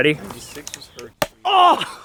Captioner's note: thud